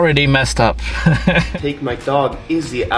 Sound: laughs

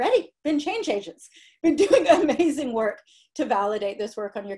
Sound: laughter

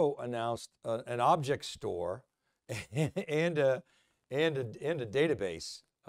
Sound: chuckles

